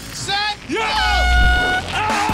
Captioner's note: horn blows